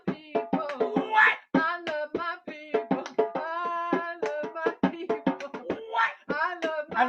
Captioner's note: singing; laughing